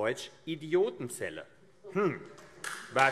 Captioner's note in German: Beifall AfD